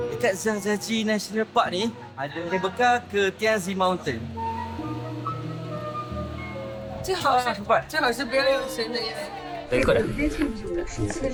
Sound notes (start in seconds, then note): 7.0 speaking Chinese